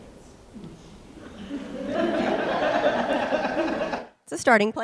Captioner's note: audience laughs